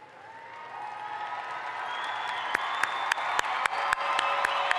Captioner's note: audience applauds